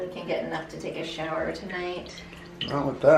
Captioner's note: water trickling